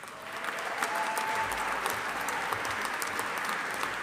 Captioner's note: audience applauding